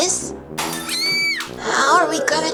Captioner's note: high-pitched scream